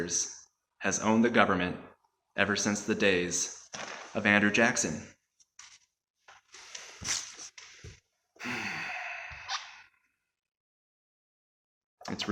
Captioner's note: heavy Sigh